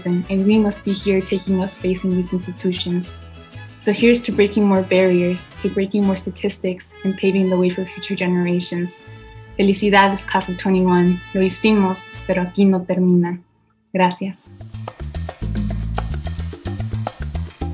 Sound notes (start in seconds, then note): 11.3 speaks in foreign language; 14.4 upbeat music